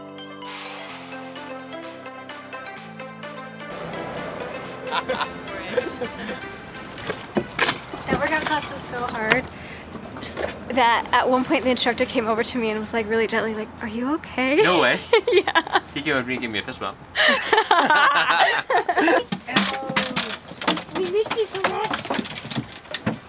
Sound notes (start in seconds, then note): 0.1 upbeat music continues; 17.1 laugh